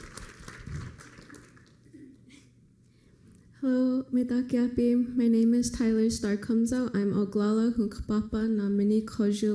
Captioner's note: foreign language; applause; foreign language